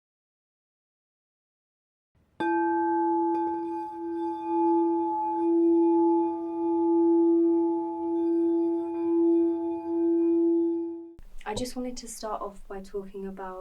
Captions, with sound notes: *E note singing bowl* I just wanted to start off by talking about,